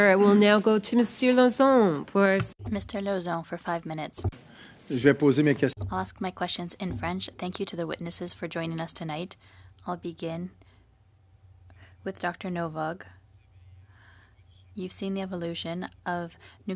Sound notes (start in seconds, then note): 10.8 speaking French